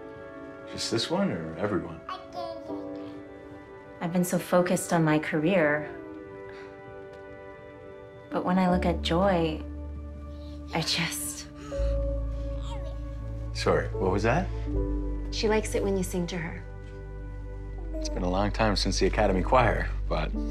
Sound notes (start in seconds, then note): 12.6 baby cooing happily